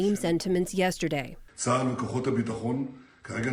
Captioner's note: through translator